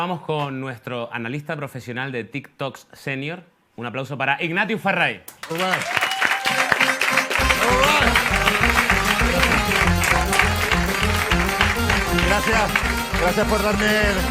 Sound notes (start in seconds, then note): 7.7 applause